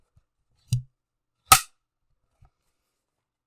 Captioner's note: board snaps